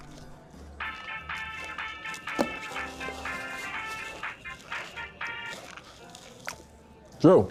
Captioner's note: cell phone rings